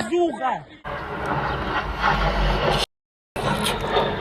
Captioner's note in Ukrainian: звук пролітаючої ракети